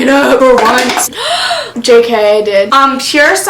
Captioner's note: gasp